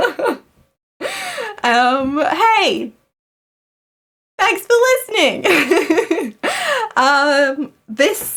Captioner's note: laughs